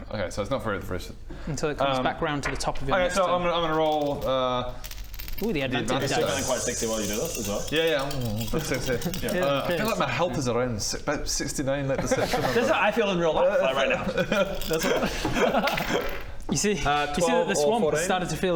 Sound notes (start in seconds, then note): 13.7 laughs